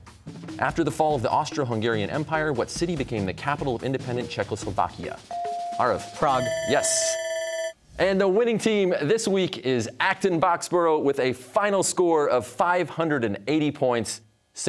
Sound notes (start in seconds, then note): 5.3 bell ringing